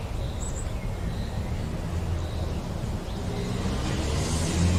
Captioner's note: car engine humming